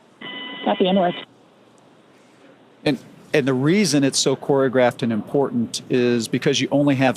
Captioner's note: beep